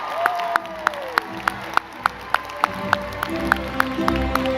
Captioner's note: all cheering and clapping; gentle music